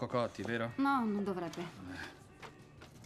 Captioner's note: sighs